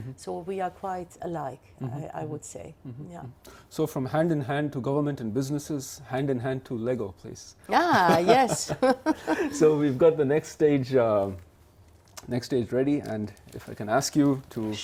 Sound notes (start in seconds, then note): 7.8 laughs